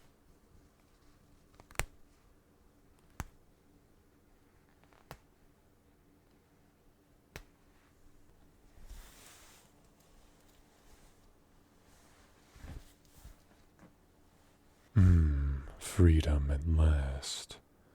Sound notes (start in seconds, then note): 1.2 shirt unbuttoning